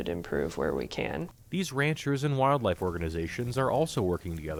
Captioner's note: voice-over